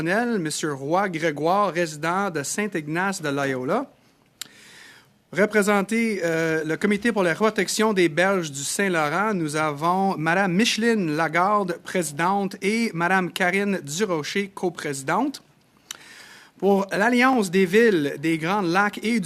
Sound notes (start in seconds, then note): 4.9 speaking French